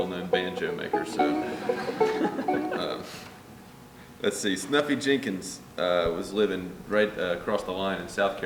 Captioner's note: laughter